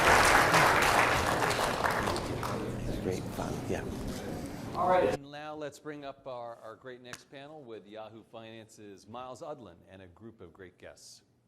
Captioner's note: applause